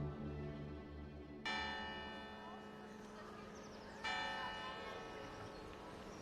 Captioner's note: church bell ringing